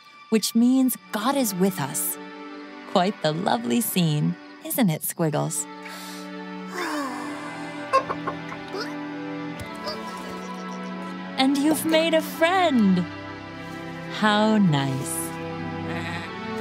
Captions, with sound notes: which means, "God is with us." Quite the lovely scene, isn't it, Squiggles? [CLUCKING] -And you've made a friend! How nice.